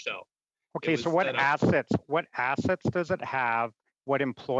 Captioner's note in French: voix de l'interprète